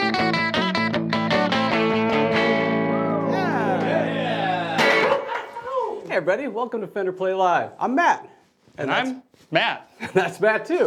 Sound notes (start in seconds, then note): 2.9 cheering